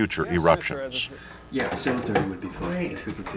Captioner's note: people talking